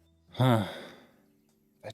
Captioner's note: sigh